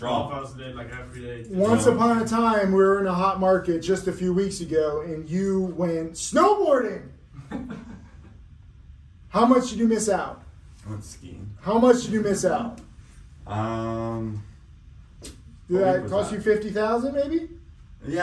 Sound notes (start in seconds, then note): 7.3 laughs